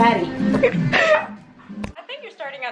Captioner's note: laughs